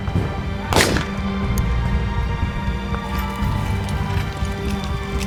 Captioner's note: gunshot cracking continues